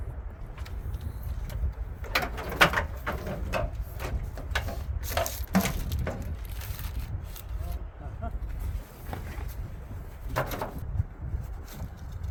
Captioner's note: wind howling